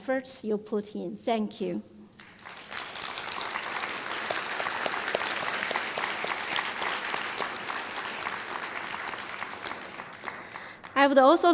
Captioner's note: applause